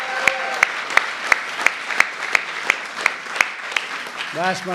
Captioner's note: applause